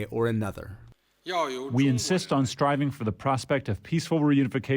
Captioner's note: through translator